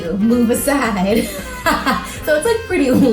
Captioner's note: laughs